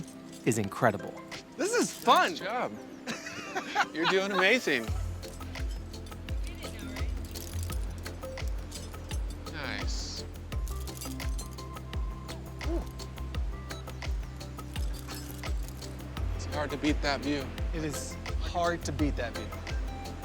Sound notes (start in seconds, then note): 3.0 Baratunde laughs; 5.6 relaxing music